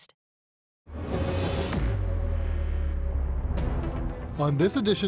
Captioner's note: whooshing